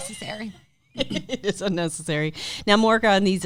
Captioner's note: laughs; laughing